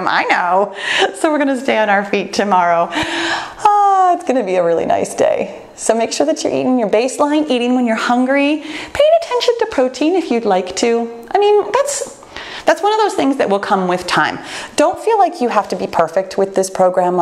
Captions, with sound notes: I know. So we're gonna stay on our feet tomorrow. (sighs) It's gonna be a really nice day. So make sure that you're eating your baseline, eating when you're hungry, paying attention to protein if you'd like to. I mean, that's one of those things that will come with time. Don't feel like you have to be perfect with this program,